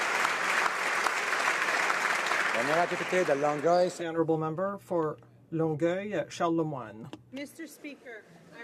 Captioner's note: applause